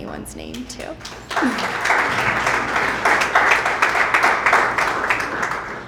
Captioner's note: applause